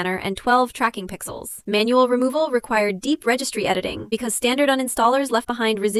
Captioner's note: sarcastic